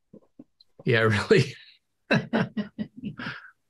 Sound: laughs

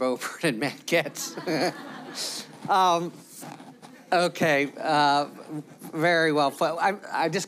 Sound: laughter

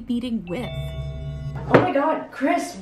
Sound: doorbell ringing

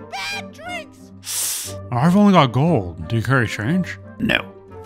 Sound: sucks teeth

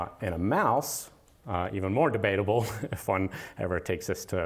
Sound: laughter

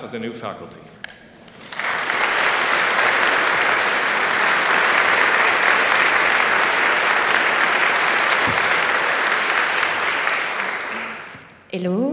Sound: applause

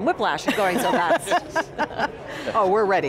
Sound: all laughing

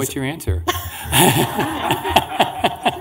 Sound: laughing

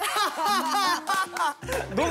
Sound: immediate laughter

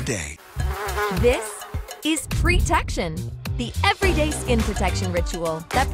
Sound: bzzzzz - Spray

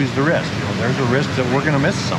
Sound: water rapids roaring

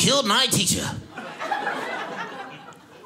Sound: audience laughing

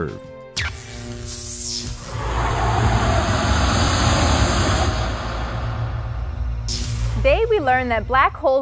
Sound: sound Effects

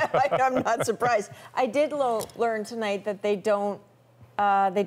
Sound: laughter

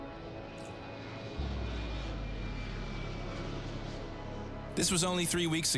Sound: melancholy music; plane engine roaring

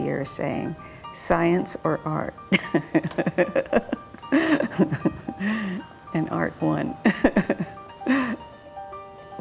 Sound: laughs

